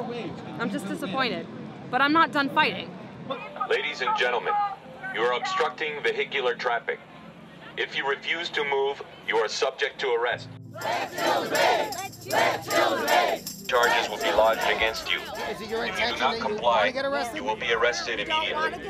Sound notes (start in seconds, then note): 3.6 officer On Intercom; 10.9 crowd; 13.8 officer On Intercom